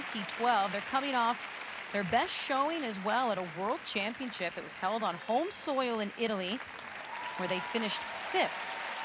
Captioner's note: applause